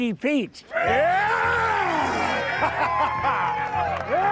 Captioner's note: crowd cheering; laughs